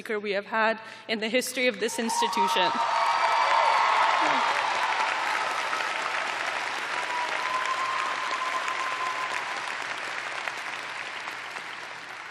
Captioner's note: cheers and applause